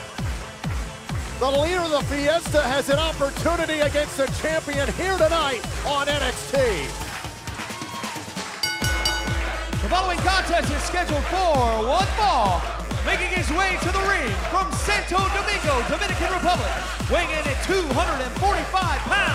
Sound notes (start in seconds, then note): 8.6 bell ringing